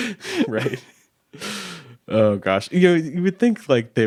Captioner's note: chuckling